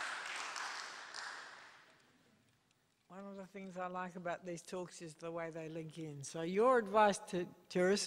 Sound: applause

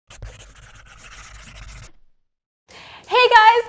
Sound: pencil scribbling

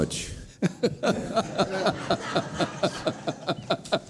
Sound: laughing

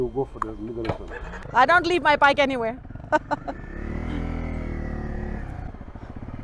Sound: laughing

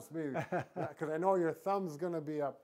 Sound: chuckles

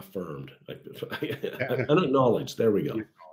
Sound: laugh

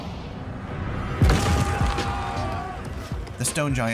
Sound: crash

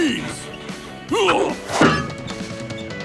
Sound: grunting

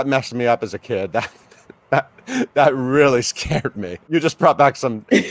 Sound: laughing

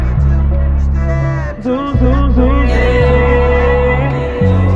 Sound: echoes

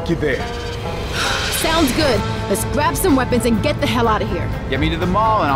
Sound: sigh

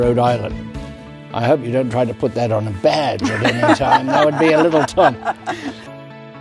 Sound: laughter

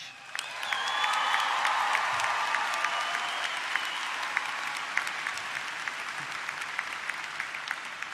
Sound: applause

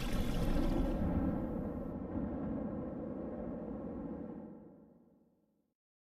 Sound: dramatic winds blowing

